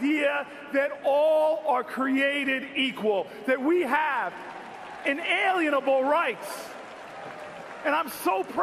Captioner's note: crowd applauds